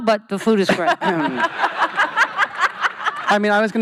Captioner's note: laughing